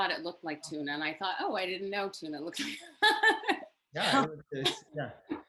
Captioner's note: laughs